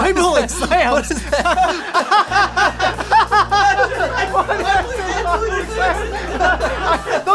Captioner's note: hysterical laughter